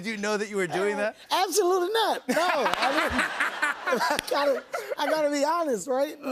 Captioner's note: laughter